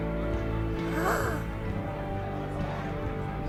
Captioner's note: gasps